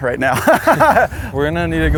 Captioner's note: laughs